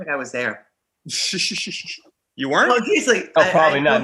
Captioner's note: laughing